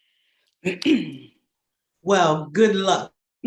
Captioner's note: clears throat